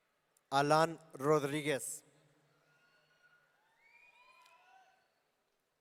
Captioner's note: audience cheering